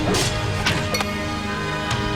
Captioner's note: arrow shooting